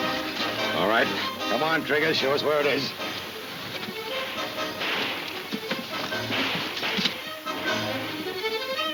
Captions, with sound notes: - All right, come on Trigger. Show us where it is. (distant guns firing)